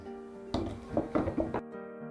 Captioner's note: tool sounds